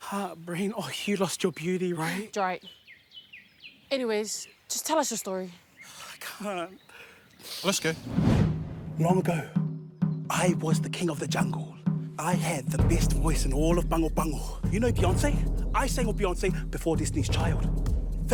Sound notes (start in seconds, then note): 6.9 sighs